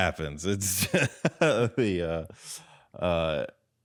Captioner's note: laughs